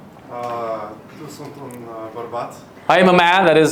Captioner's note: attendee speaks Romanian